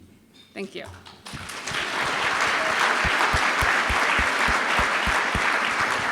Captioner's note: applause